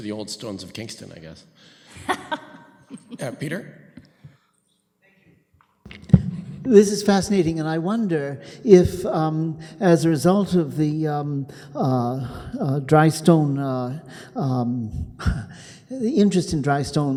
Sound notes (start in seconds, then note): 1.9 laughs